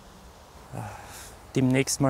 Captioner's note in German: Seufzen